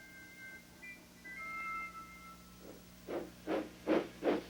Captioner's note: steam hisses